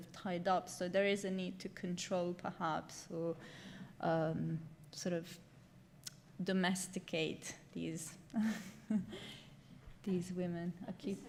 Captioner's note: chuckles